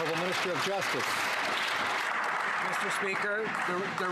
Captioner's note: some Applause